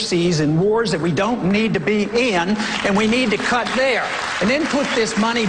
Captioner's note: applause